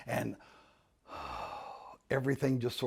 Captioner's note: sighing